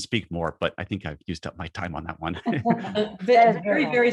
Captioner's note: group laughs